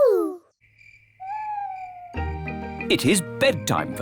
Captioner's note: crickets chirping